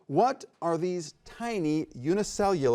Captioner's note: none